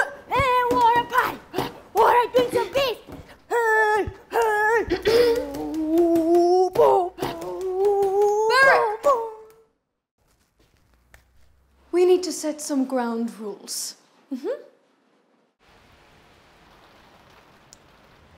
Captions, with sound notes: [singing] Hey wanna party, wanna drink some beers. Hey, hey- [clears throat] Berrick! We need to set some ground rules.